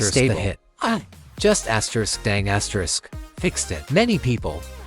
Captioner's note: dang